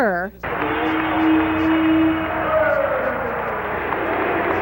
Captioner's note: crowd cheering